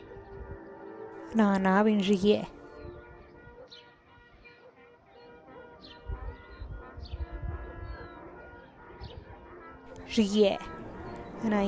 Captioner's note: Speaking in Teotitlán del Valle Zapotec